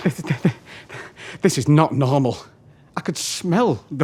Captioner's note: scoffs heavily